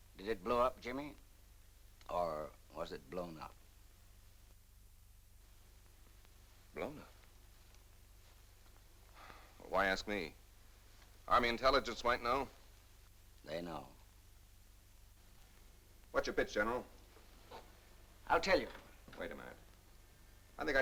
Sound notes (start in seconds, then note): none